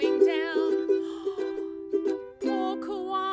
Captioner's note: gasp